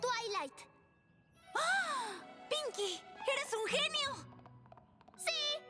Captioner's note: gasp